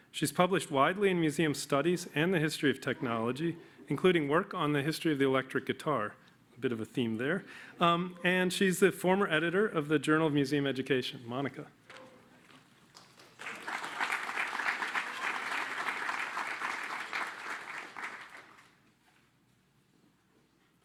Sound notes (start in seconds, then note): 12.8 applause